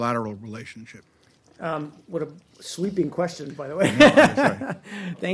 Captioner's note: laughter